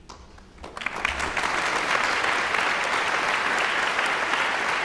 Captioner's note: audience applauds